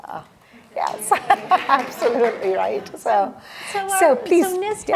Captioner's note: audience applause